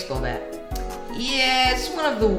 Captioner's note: lip smack